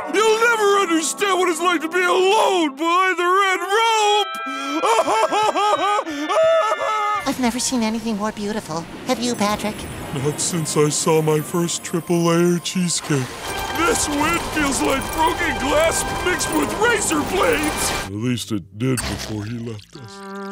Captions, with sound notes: You’ll never understand what it’s like to be alone behind the red rope! [crying] I've never seen anything more beautiful, Have you, Patrick? Not since I saw my first triple layer cheesecake. This wind feels like broken glass mixed with razor blades. At least it did before you left us.